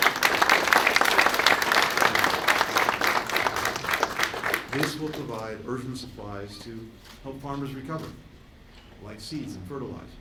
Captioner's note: applause